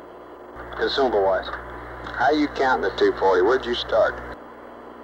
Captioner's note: mission Control Audio